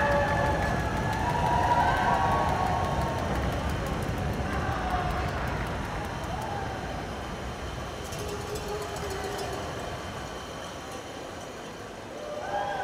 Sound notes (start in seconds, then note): 0.0 cheering